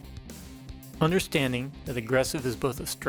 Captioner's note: voiceover